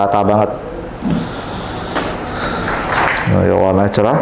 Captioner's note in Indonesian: menghela nafas